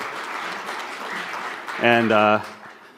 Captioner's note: applause